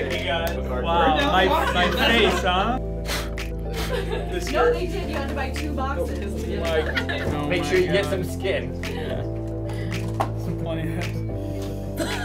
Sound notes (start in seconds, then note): 2.9 blows air; 6.8 laughter